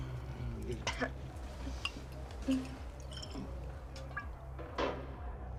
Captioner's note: Scarlet coughing